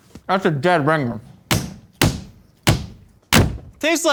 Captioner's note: slapping